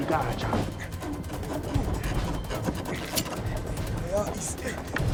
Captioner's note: speaking tribal language